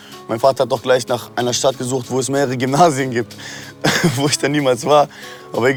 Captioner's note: laughing